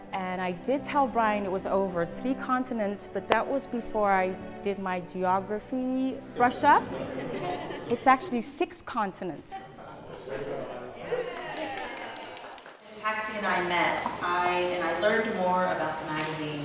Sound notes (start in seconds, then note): 9.7 laugh; 9.8 applause